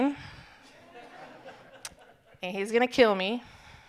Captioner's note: audience chuckling